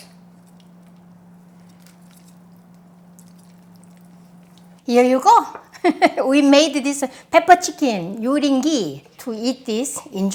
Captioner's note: laughs